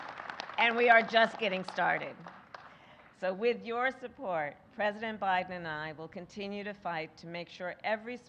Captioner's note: applause